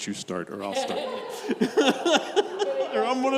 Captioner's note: laughs; congregation members chuckle